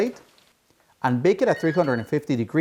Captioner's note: oven beeping